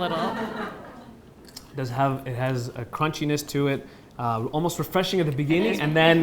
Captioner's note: audience laughs